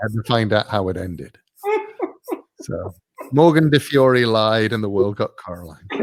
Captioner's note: laugh